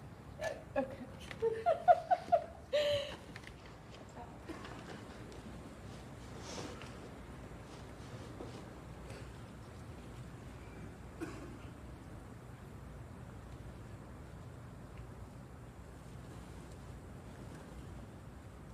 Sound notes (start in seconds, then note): 1.2 laughs; 6.3 sniffles